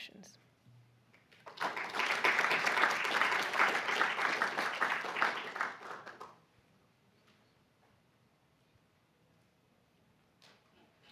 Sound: applause

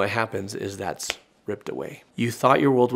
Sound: fingers snapping

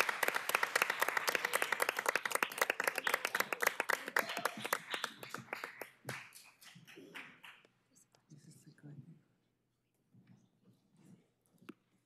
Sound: applause

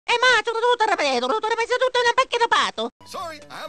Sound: italian-sounding gibberish

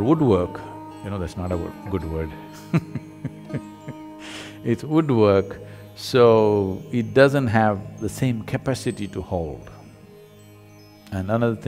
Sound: laughs

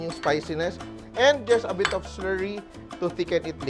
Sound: clang

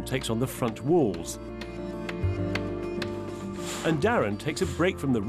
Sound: stone thudding

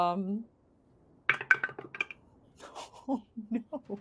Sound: dice clink

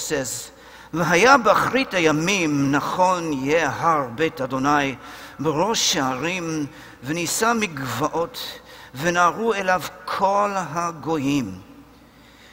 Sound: Hebrew

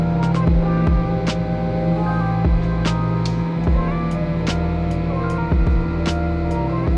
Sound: machine whooshes; ambient music continues; machine whooshes

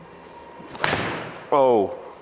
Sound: ball thuds

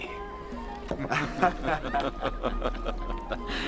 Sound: laughing

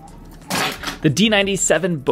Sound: string snap

